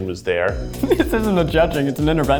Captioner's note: laughs